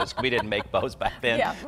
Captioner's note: laughs